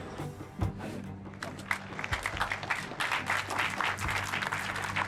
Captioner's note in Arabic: الجمهور يصفق